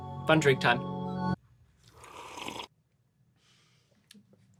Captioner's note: slurps